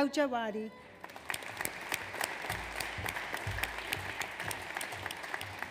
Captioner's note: audience applauds